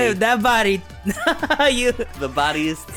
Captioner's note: chuckling